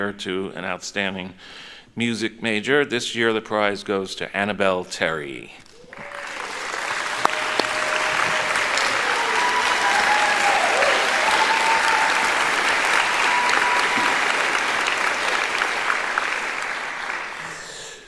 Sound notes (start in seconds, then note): 5.3 cheering; 6.3 applauding